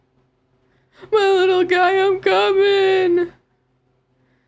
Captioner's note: sobbing